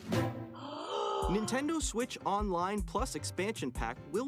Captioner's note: dramatic/excited gasp